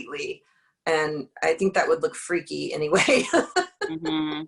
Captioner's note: laughs